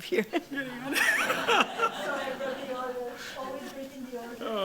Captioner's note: laughter